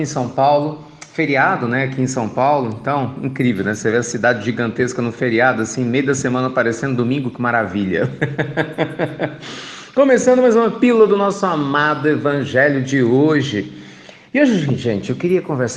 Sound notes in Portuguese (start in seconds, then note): 7.9 Risos